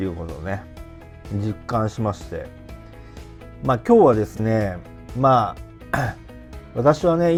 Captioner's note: clears throat